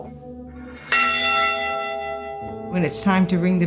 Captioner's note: bell rings